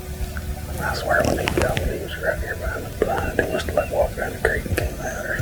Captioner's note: whispering